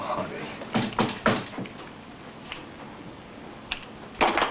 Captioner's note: door knocking